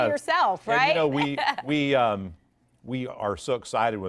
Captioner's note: laughter